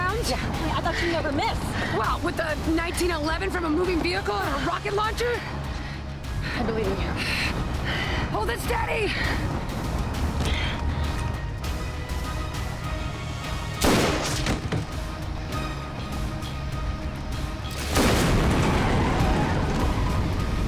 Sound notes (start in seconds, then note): 18.4 tires skidding